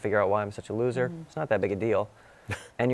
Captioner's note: laughs